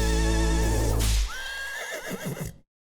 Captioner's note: horse neighing